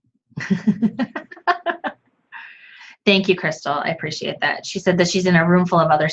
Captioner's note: chuckles